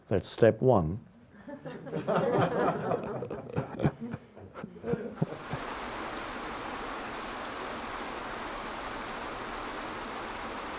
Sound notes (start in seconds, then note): 1.4 audience laughing; 6.0 water pouring